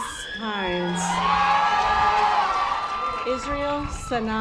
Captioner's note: audience applause